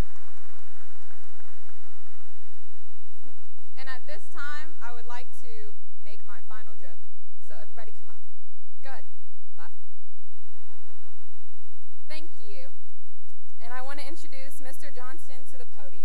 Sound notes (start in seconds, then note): 0.0 cheering and applause; 10.6 laughter